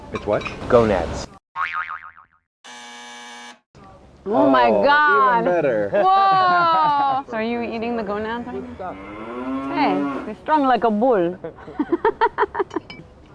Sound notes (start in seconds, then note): 1.7 sound: jaw harp's twang; 2.6 sound: buzzer; 8.0 sound: bull's roar; 12.4 laughing